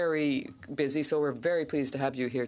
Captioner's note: speaking French